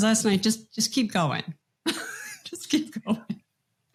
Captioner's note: laughs